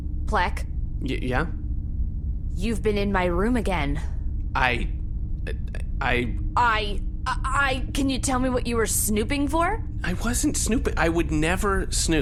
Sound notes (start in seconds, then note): 5.0 stammers; 6.6 mockingly